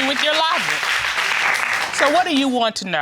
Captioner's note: audience applauding